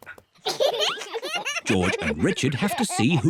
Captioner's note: both laugh